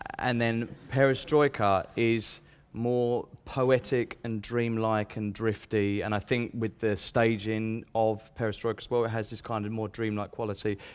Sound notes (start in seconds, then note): none